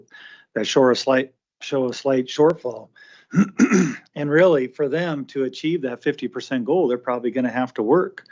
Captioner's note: clears throat